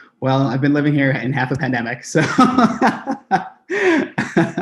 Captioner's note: laughs